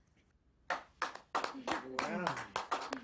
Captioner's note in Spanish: Aplausos